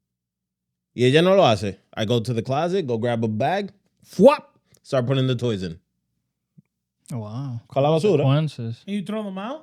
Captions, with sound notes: (Speaking In Foreign Language) I go to the closet, go grab a bag, (Speaking In Foreign Language) start putting the toys in. Oh wow. (Speaking In Foreign Language) Can you throw them out?